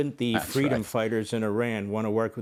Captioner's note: laughter